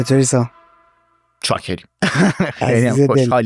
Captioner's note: laughs